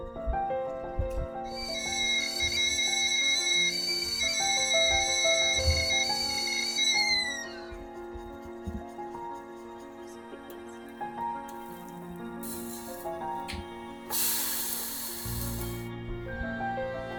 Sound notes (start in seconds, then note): 1.5 kettle whistling